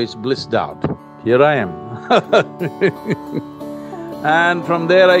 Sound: laughs

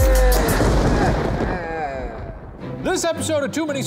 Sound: thunder crashes

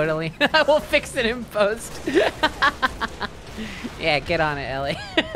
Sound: laughing

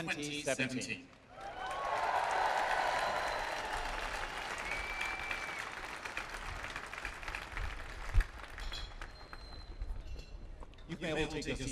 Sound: applause

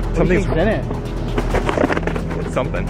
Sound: box rattles

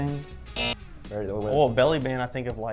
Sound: buzzer

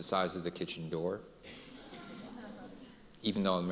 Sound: audience laughing

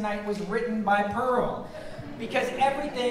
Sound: audience laughing

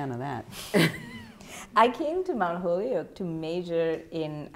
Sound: chuckling

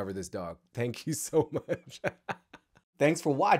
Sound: laughs

